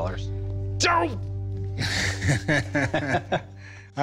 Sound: laughs

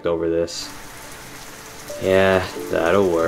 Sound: rain pattering

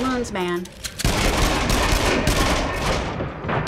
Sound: fast shooting

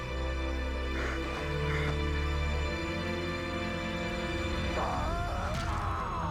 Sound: cries

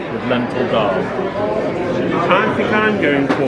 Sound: they laugh

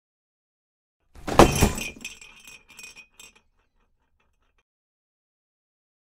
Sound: sound of ornament box slam

